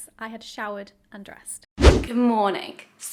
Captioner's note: whooshing sound